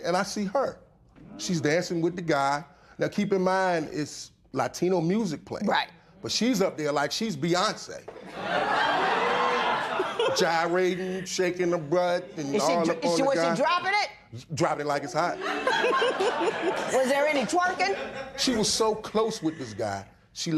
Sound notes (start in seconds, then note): 8.1 laughter